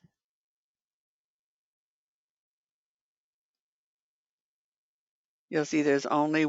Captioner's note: 5 seconds pause